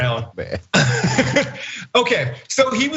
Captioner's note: laugh